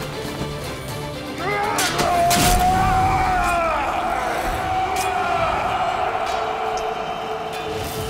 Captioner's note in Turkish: Dövüşme sesleri